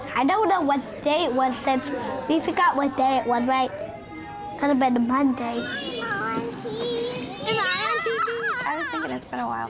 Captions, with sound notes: I don't know what day it was since-- We forgot what day it was, right? Could've been a Monday. (collective chatter) I was thinking it's been awhile